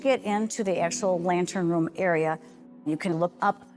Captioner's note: none